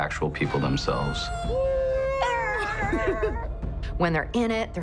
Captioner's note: high-pitched sounds, laughter